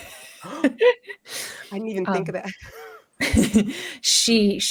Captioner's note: laughs; gasps; laughs